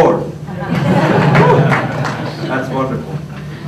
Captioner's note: laughter